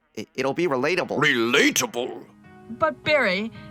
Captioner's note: with a variety of accents